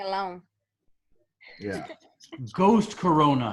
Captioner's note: laughs